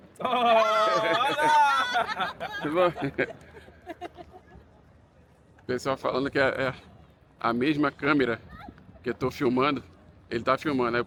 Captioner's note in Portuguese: risadas